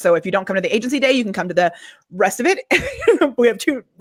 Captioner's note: laughs